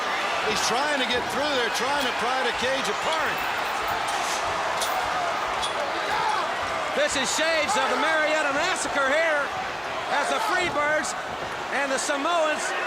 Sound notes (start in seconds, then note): 7.3 crowd chatter; 11.7 crowd cheering